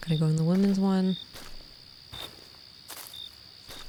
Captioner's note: crickets and forest sounds continue